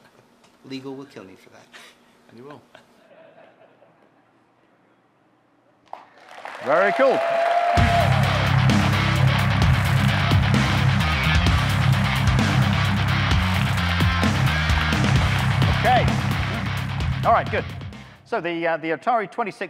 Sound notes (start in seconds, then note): 2.7 laughter; 5.8 audience clapping, cheering